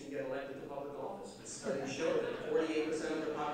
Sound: audience laughing

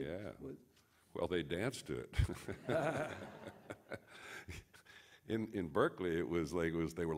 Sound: laughs

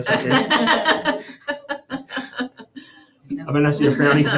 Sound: laughs

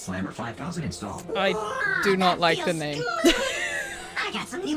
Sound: laughs

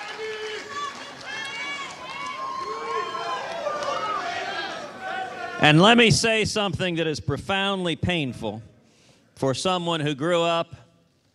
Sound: applause

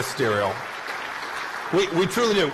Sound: applause

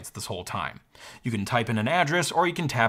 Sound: none

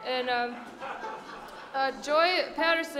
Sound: audience laughing

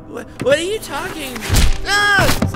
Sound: punch

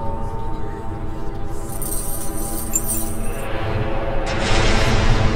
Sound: chains rattling

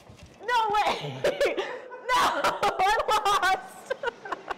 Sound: laughing

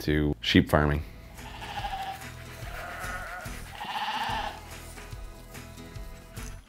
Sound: soft guitar music; sheep baaing

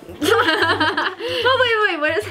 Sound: girls laugh

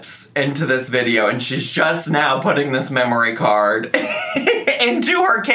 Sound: laughs

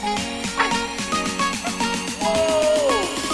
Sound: laughing

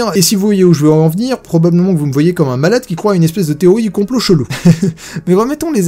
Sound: laughs

